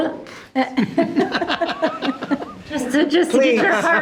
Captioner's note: members laughing